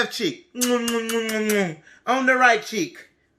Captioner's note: kisses